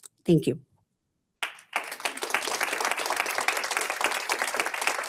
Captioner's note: audience applauds